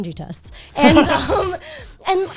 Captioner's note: guys laughing